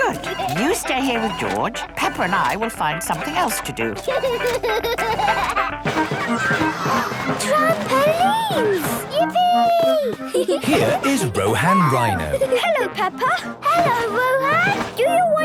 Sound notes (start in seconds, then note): 0.0 giggling; 4.4 George giggles; 6.9 gasps; 10.2 giggling